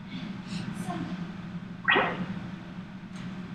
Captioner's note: laptop dings